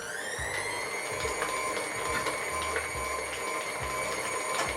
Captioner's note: mixer noise speeds up